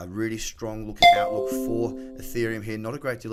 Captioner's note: notification pings